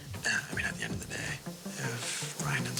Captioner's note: whihispspererining